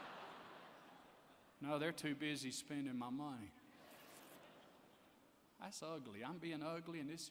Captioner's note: laughter; laughter